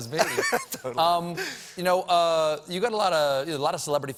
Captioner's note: laughter